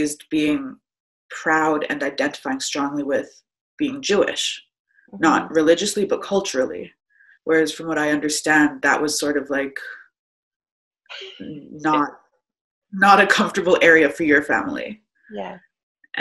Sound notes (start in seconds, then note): 10.9 chuckles